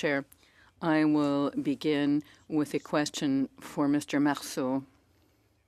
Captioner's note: speaking French